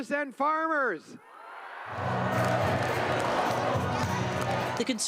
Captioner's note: cheering